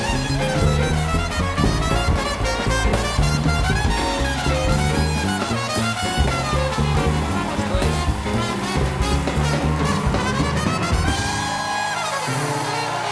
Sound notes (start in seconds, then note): 2.3 band playing; 2.3 cheers and applause